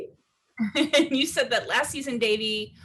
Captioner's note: laughs